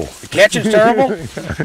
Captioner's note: laughter